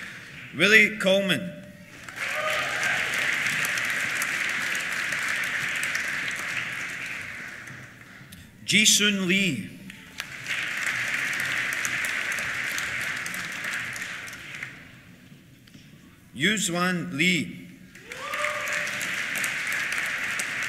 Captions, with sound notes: Willi Köllmann. (CHEERS) (APPLAUSE) Jisun Lee. (APPLAUSE) Yuxuan Li. (CHEERS) (APPLAUSE)